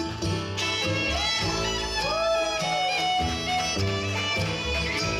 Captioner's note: audience cheering